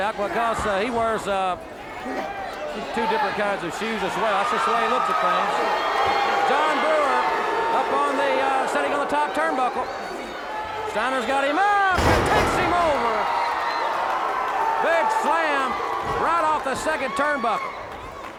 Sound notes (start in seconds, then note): 13.3 audience cheers